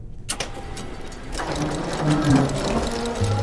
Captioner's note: gears grinding